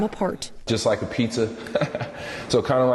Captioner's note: laughing